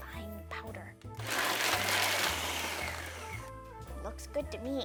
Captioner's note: blender whirring